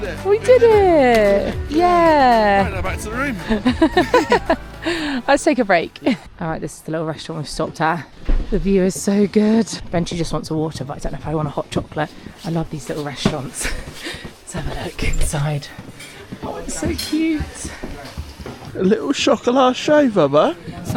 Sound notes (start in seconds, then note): 3.4 both laugh